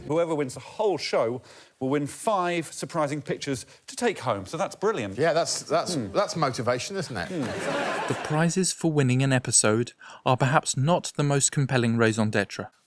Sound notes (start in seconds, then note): 7.6 sarcastic tone